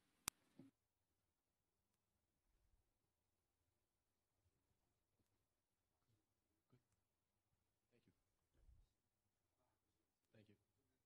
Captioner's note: silence